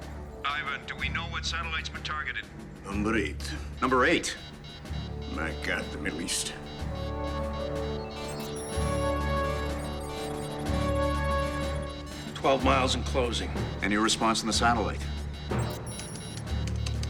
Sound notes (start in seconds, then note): 6.5 alarm beeping; 15.0 beeping continues